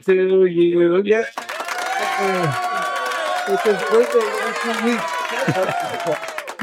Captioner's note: applause